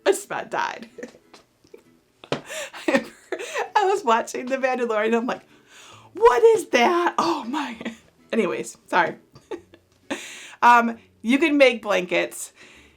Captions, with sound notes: I just about died. (chuckles) I was watching The Mandolorian, I'm like, what is that, oh my, anyways, sorry. (chuckles) You can make blankets